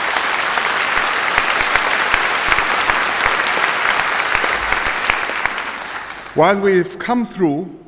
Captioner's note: applause